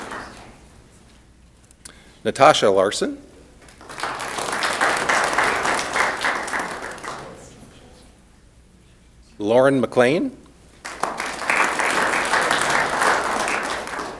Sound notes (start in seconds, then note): 3.6 applause; 10.7 applause